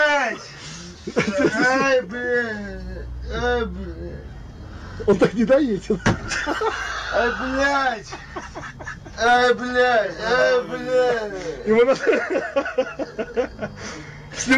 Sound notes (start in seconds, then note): 6.0 bang; 10.4 cameraman starts laughing